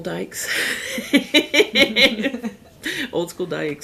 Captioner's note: laughing